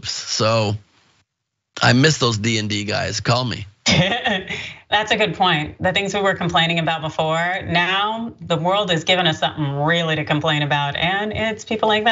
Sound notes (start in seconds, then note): 3.8 laugh